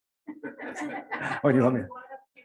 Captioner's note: laughs